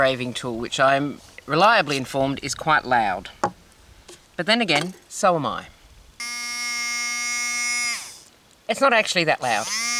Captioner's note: low buzzing